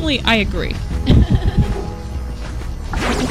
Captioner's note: laughter